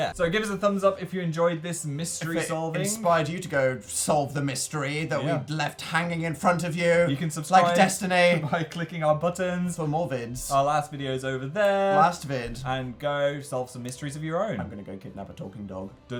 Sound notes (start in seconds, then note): 9.1 laughs